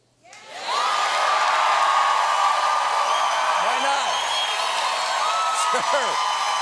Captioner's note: cheers and applause